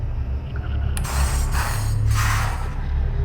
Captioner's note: scratching